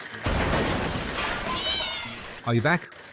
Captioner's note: crash